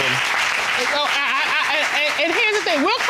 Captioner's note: stammers